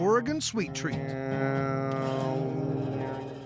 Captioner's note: imitating buzzing